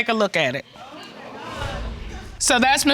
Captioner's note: indistinct chatter in audience